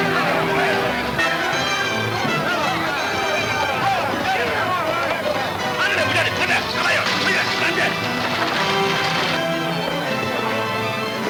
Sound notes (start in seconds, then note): 0.2 dramatic orchestra music; 5.0 yelling in Spanish